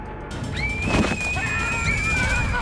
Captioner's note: girl screaming; yells